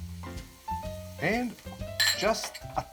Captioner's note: jazzy music; taps spoon; glass clinking